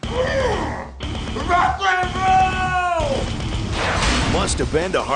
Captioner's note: grunts victoriously; hard rock music; Hard Rock Park logo whooshes then clangs